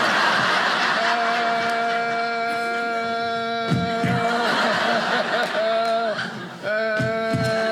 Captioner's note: audience laughing